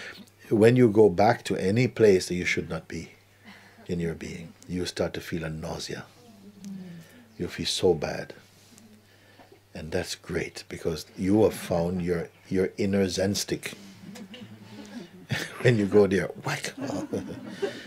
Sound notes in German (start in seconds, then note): 13.6 Lachen